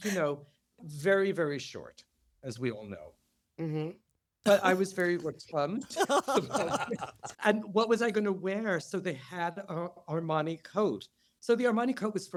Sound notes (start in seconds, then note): 5.8 laughter